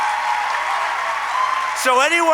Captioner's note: applause